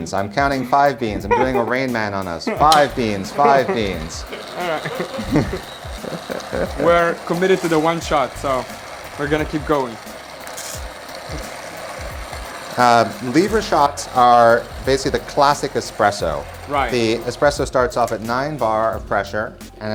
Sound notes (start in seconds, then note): 4.6 laughing